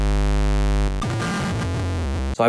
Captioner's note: buzzing